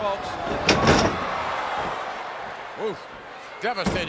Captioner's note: Bret Hart banging